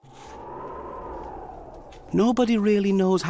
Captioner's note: wind howling